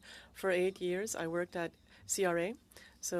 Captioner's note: speaking French